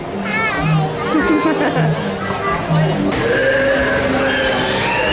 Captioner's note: laughs